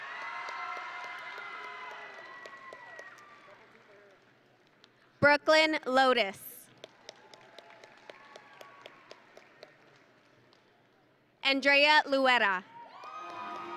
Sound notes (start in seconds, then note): 0.0 audience and graduates cheering; 6.8 audience and graduates applauding; 13.2 grand music